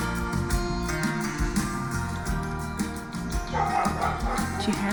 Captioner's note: distant barking